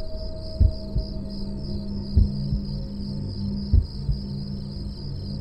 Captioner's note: heartbeat slowing